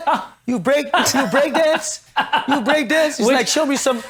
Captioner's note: laughs